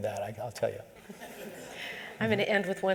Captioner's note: laughter